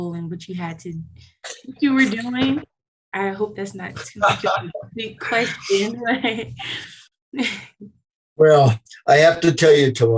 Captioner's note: laughter